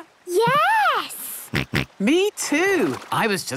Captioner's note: snorts